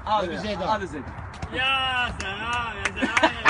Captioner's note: laughing